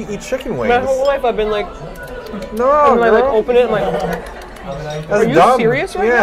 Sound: cute munching noise; nomnomnom

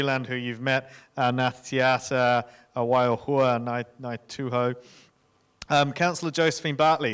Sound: speaking in foreign language

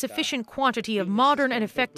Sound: speaking alternate language

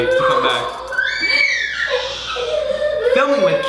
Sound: children shriek

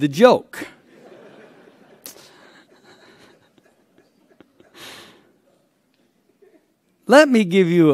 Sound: laughter

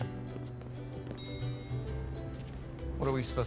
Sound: ding!

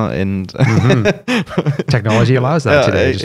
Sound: laughter

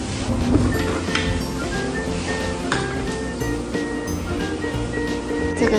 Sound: hand washing

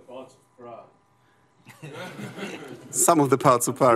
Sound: laughter

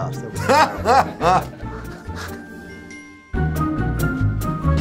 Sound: laughing; cheerful music

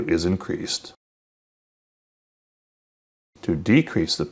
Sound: silence

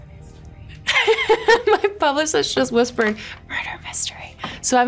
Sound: laughs

